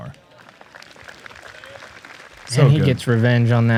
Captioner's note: applause